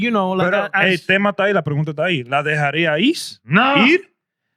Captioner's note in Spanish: Hablando en idioma extranjero